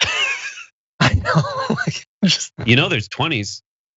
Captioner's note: laugh